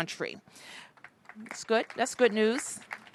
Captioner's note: applause